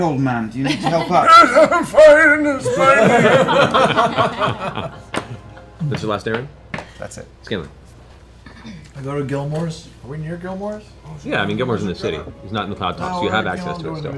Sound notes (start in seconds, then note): 2.3 old-man voice; 3.8 laughter